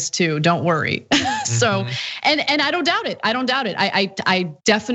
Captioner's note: laugh